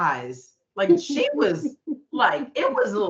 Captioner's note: laughing